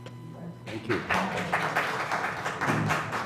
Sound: applause

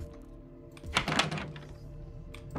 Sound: door Rattles

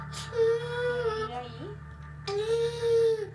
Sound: Spanish speaking; child crying; Spanish speaking

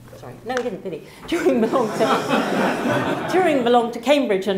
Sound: laugh

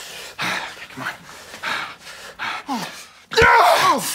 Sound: heavy breathing; grunting

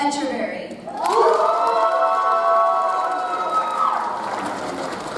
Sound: audience cheers

